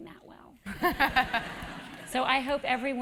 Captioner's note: laugh